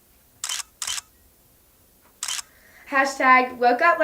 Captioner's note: camera clicks